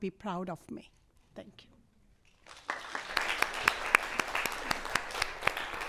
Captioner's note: audience applauds